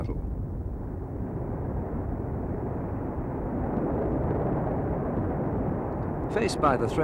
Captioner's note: rocket Rumbles